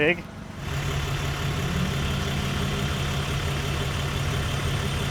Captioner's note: fork truck motor humming